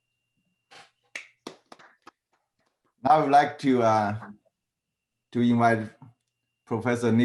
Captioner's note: applause